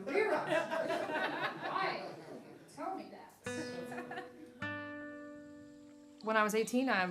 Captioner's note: audience laughing